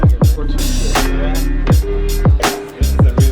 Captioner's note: chatters